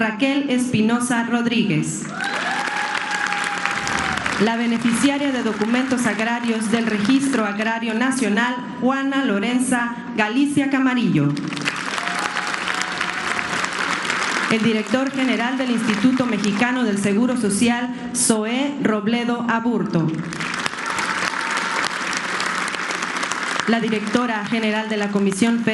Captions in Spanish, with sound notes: Raquel Espinosa Rodríguez, [aplausos] la beneficiaria de documentos agrarios Registro Agrario Nacional Juana Lorenz Galicia Camarillo, [aplausos] el director general del Instituto Mexicano del Seguro Social, Zoe Robledo Aburto. [aplausos] Directora general de la Comisión